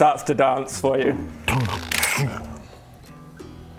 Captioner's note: dink schunk